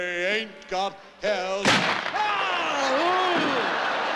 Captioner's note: screams